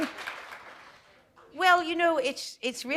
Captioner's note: applause